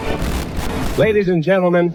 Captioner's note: loud Glitch